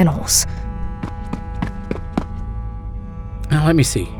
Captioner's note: hurried footsteps